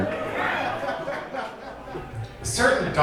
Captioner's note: audience laughing